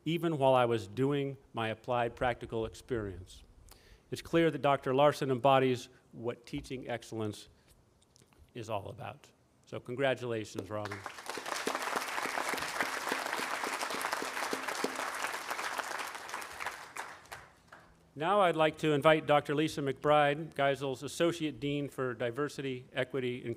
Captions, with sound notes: even while I was doing my applied practical experience." It's clear that Dr. Larson embodies what Teaching Excellence is all about. So congratulations, Robin. (audience applauding) Now I'd like to invite Dr. Lisa McBride, Geisel's Associate Dean for Diversity, Equity,